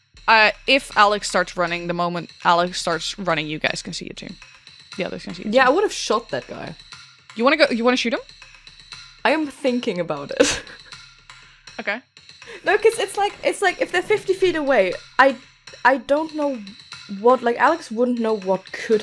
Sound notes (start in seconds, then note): 8.0 whispering; 10.3 chuckles